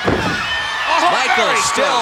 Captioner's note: audience cheering